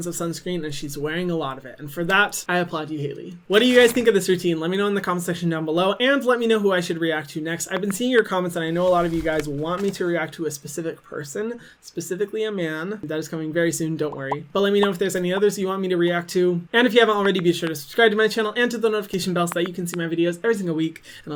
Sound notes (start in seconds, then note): 14.2 popping